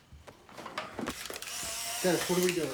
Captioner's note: camera whirring